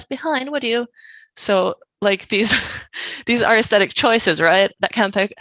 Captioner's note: laughs